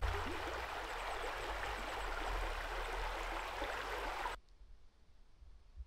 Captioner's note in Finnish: Aplodeja